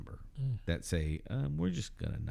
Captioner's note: uh